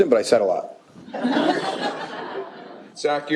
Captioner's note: laughter